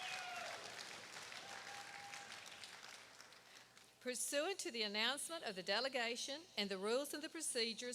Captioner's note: applause